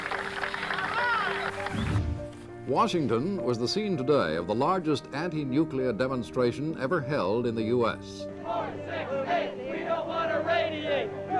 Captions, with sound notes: [cheering] Reporter:Washington was the scene today of the largest anti-nuclear demonstration ever held in the US. [chants] four-six-eight! We don't want to radiate!